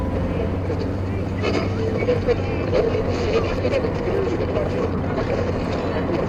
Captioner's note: garbled radio voices and static